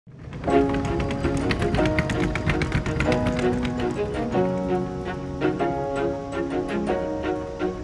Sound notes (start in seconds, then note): 0.0 cart rumbles; 0.5 upbeat music